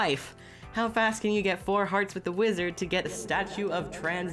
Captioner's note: reverb effect